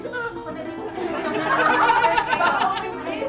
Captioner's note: laughs